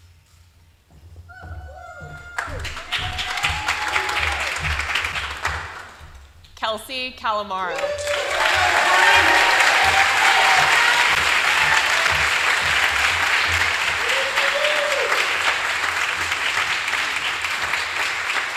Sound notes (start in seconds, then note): 12.9 applause